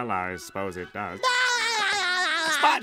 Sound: laughing

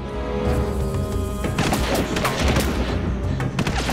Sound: adventurous music; guns blasting

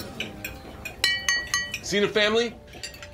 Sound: clinking

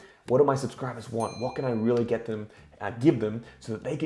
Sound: chimes

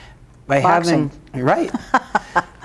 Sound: laughing

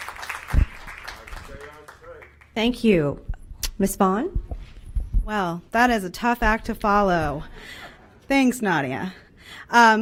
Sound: cheers and applause

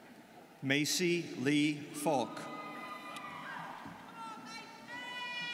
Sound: students cheering

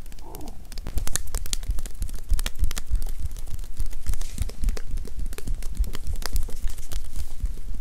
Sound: tapping

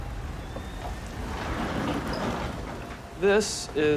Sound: door rolls open

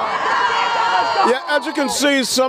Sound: cheering

